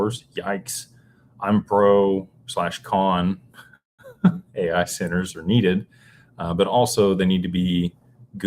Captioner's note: laughter